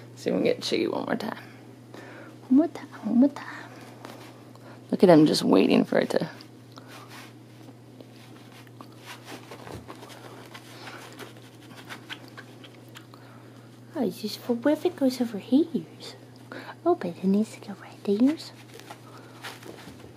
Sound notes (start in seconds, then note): 8.0 rustling noises